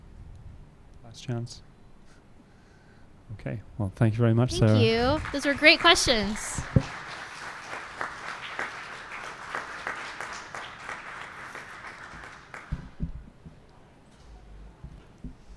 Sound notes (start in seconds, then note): 6.6 applause